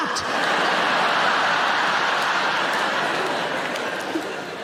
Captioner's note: audience laughing